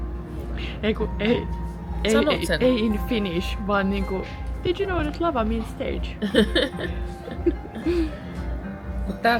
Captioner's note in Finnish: naurua